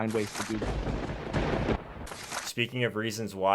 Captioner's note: lightning striking